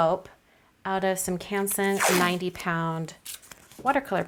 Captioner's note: tape unsticking